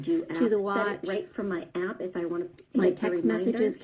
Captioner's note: other video playing in background